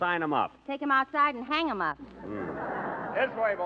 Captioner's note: laughter